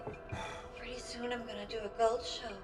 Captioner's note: bottle rattles